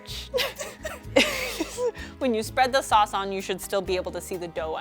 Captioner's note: chuckles